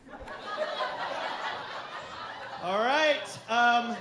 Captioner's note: crowd laughing